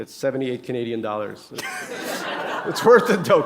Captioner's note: laughter